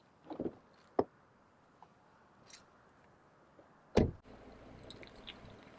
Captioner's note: doors opening and closing